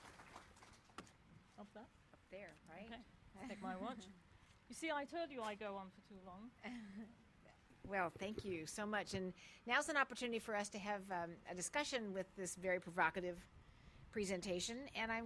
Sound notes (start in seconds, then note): 0.0 applause; 3.4 laugh; 6.6 laugh